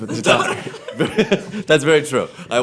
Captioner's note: laughing